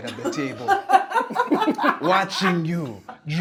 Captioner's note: laughing